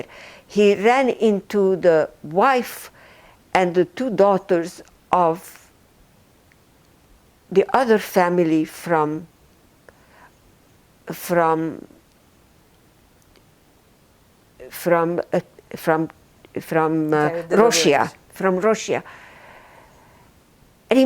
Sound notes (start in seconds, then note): 10.2 pauses 6 seconds